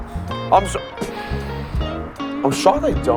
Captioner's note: sniffs himself